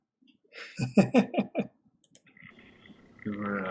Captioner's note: chuckles